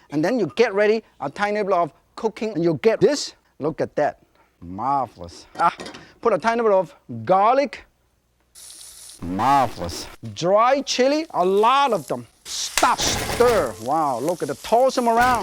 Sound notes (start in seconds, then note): 12.7 smacks hand with spatula; 12.8 Team Fortress 2 frying pan noises